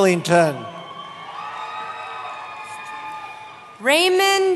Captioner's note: cheering